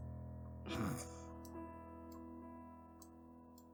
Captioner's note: snorts